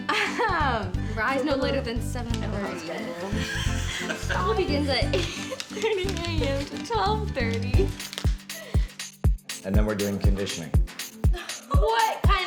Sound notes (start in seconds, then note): 3.4 laughs